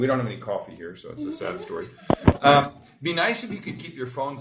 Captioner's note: group laughs